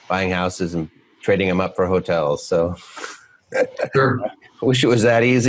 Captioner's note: laughs